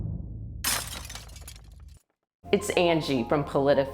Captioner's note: glass cracking